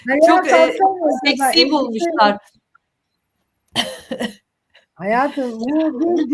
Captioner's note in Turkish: kahkaha